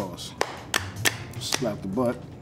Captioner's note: slap noises